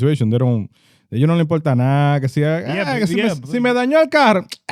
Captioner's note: speaking In Foreign Language